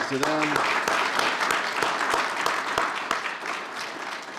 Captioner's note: applause